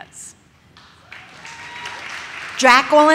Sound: audience cheers

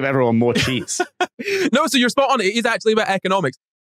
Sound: laughs

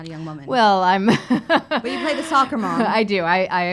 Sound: laughs

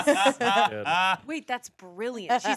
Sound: everyone laughs

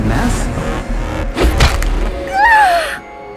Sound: cracking; yelping

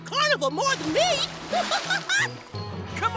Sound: laughing

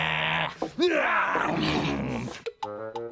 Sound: chomping

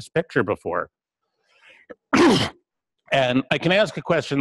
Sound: pause

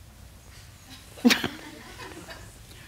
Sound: laughter

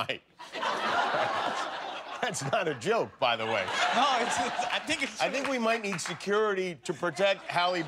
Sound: laughter

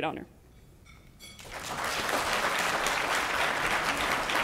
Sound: applause

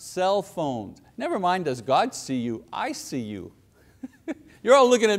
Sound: laughs

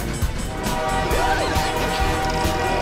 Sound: train horn blows; all yelling

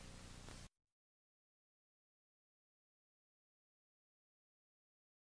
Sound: silence

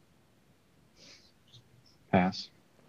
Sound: students whispering

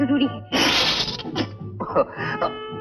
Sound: laughs

